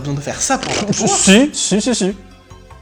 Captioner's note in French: Pfftr